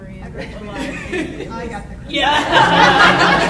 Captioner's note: audience laughing